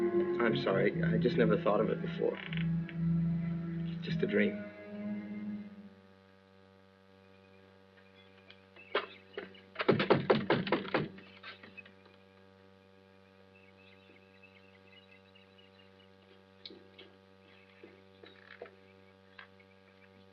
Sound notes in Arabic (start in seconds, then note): 9.8 طرق على الباب